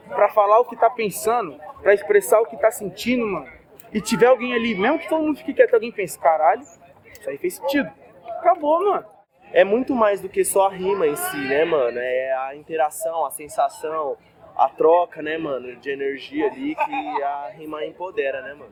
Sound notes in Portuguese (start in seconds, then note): 10.5 barulho da plateia se dispersando ao fundo; 17.1 barulho da plateia se dispersando ao fundo